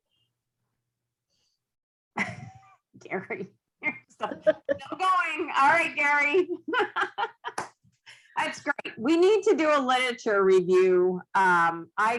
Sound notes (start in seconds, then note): 3.8 laughs; 6.6 laughs